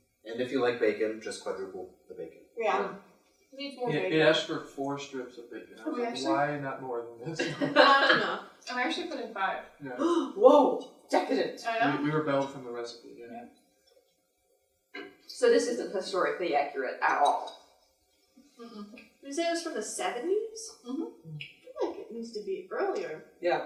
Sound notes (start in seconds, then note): 3.8 collective yeahs; 7.2 laughter; 10.0 gasp